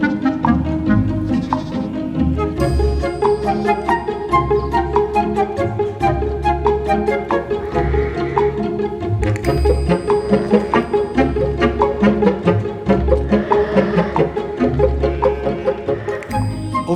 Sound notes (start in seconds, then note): 1.2 sheep bleats; 1.7 playful music continues; 13.8 playful music continues; 15.1 sheep bleating